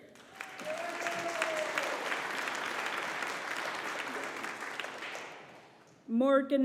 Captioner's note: audience applauding